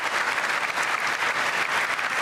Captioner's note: applause